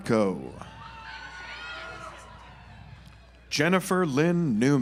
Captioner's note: audience applauds